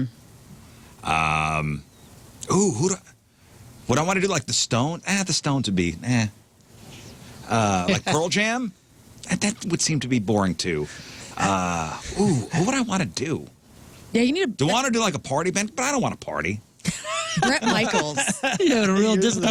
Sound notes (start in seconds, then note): 16.8 laughing